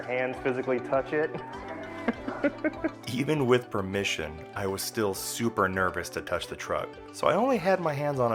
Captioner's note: laughter